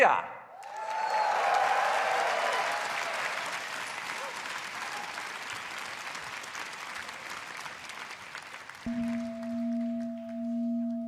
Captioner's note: cheers and applause